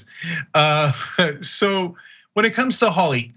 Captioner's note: laugh